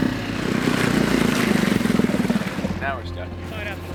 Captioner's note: engine growling; water splashing